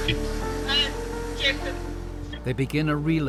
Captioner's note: water streams